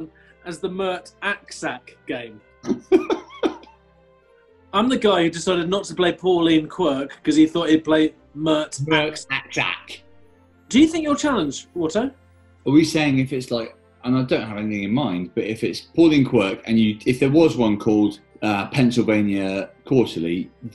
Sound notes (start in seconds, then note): 2.6 giggling